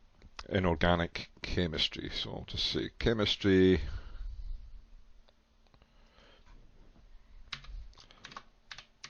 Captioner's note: typing